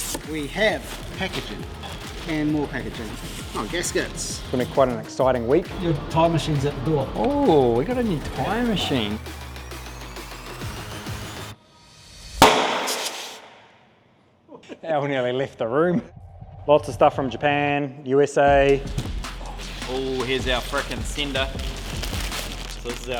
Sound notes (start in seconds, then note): 12.4 tire machine pops; 14.7 both laughing